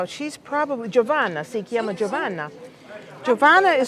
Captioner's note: speaking italian